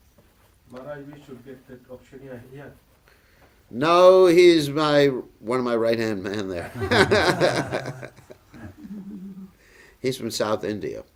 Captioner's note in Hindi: हँसी